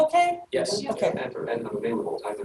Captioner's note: voices in agreement